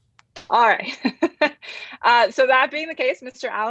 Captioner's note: chuckles